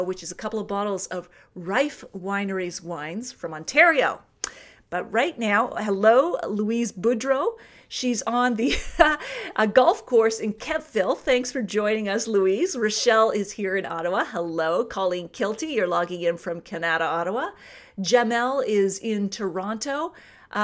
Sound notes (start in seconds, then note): 8.8 laughs